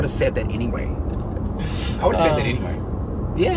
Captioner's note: driver laughs